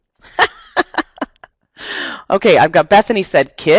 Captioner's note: laughs